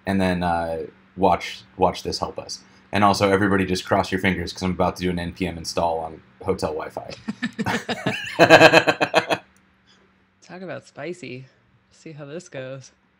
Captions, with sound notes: and then watch this help us. And also, everybody, just cross your fingers 'cause I'm about to do an npm install on hotel WiFi. (laughing) - Talk about spicy, see how this goes.